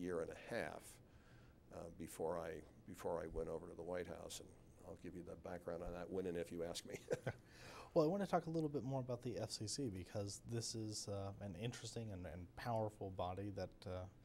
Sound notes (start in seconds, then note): 6.9 laughs